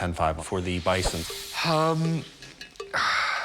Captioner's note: sighs